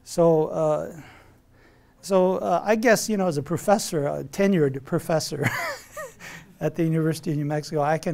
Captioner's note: laughs